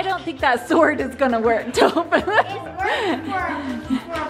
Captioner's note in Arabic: ضحكات خافتة